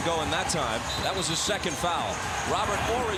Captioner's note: whistle blows